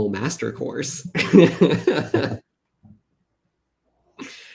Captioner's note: laughs